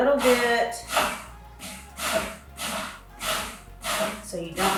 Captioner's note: blender buzzing